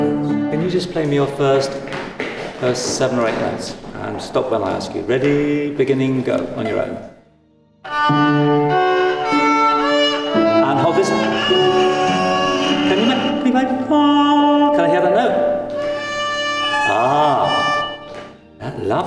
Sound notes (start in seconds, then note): 8.1 gentle instrumental music; 14.2 humming